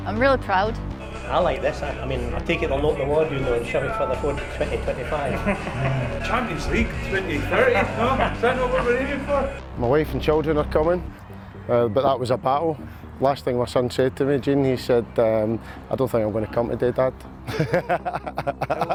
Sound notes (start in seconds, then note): 7.5 laughs; 17.4 laughs